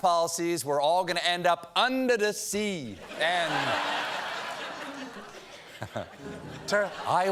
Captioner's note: laughter; piano riff